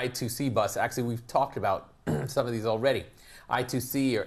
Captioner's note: cough